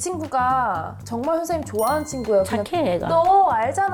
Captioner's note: sound effect: true fan alert